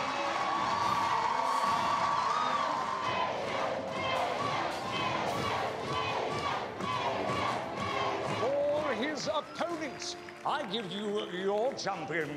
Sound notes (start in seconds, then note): 4.0 chanting